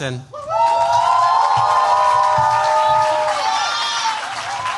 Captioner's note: cheers, applause